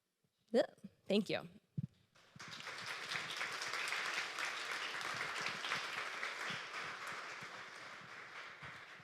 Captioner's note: applause